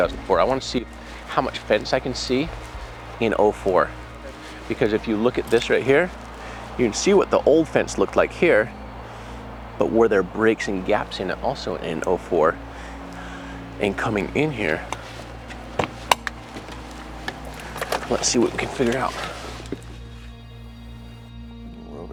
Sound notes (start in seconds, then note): 15.2 door clicking open; 19.3 high intensity music